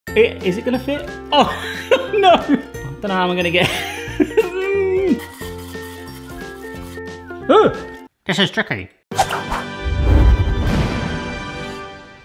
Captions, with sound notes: - Is it gonna fit? (laughs), no. I don't know how I'm gonna get. (bright bouncy music) This is tricky. (dramatic music)